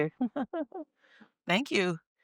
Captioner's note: laughing